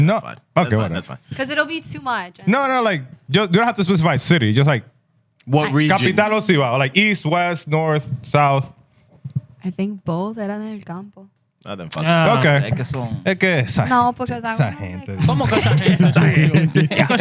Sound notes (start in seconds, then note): 6.7 speaking Foreign Language; 13.8 speaking Foreign Language; 15.0 laughing; 17.0 speaking Foreign Language